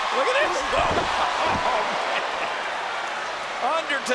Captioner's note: laughs